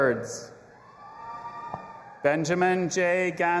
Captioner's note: audience applauding and cheering